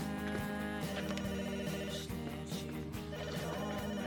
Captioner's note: phone ringing